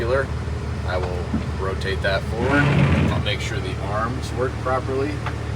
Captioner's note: wiper swiping